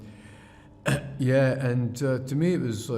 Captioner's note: clears throat